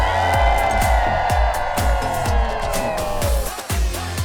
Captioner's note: crowd cheers